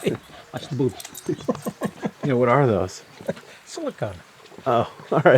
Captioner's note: awkward chuckle